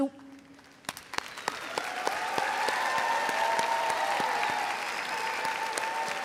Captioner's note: audience applauding and cheering